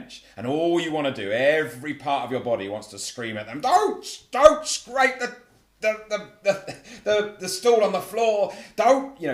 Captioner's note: laugh